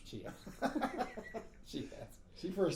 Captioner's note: laughing